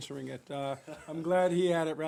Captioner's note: laughter